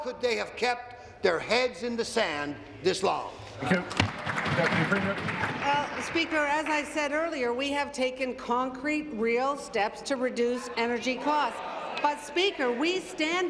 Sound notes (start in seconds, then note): 7.5 applause